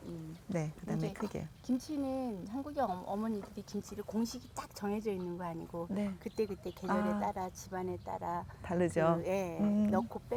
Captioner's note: speaking Korean